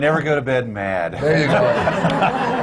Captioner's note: laughter